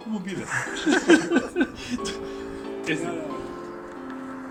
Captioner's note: laughing